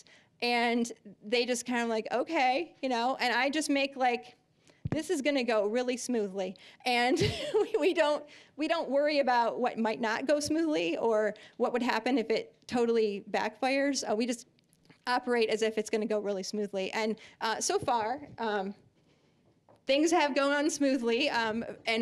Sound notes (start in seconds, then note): 6.8 laughing